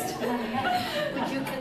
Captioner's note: laughter